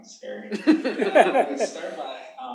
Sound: laughter

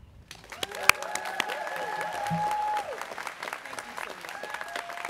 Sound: students cheering

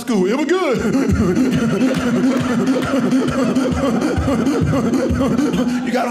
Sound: laughing

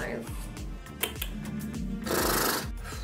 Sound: mouth clicking; lips smacking

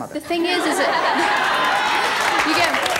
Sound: audience laughing

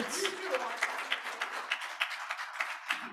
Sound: applause

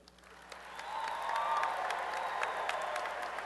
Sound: applause and cheering

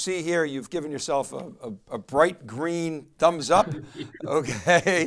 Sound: laughing

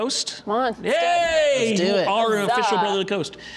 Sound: cheering

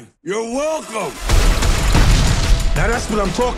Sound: rousing music; explosions booming

